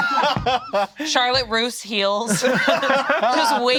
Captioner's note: all laughing